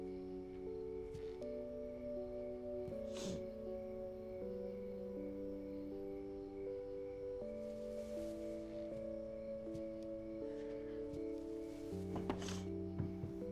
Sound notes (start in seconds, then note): none